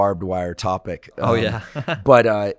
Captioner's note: chuckling